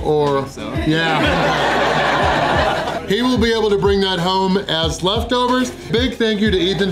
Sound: laughter

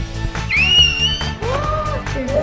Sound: upbeat music; squeals; gasps

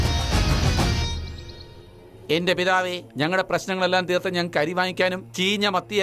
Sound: birds chirping

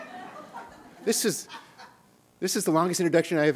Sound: laughter

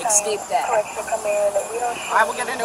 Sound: radio dispatching in background

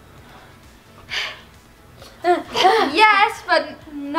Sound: sighs

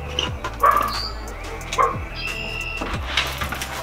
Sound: dog barking

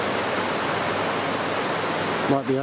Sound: waves crashing

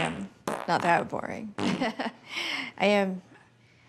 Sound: blows raspberry

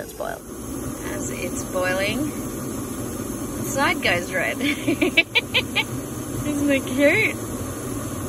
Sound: giggles

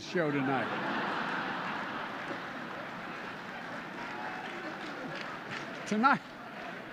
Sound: laughter and applause

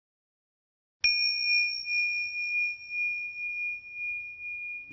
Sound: bell dinging

